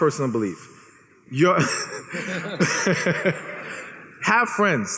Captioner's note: laughs